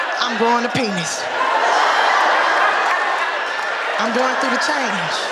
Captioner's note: audience laughing